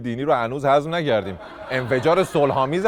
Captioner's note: laughter